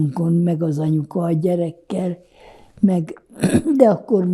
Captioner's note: clears throat